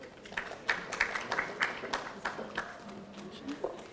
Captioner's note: audience applauding